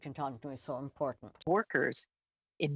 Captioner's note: speaking french